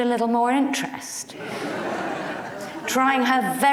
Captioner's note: audience laughs